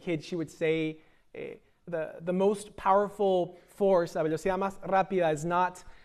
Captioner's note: speaking spanish